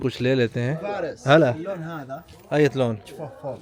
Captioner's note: Arabic